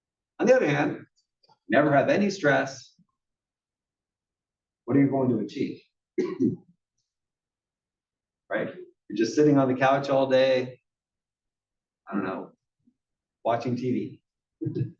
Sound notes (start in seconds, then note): 6.1 cough; 14.7 laugh